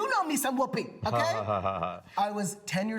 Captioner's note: laughs